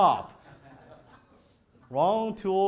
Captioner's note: audience laughs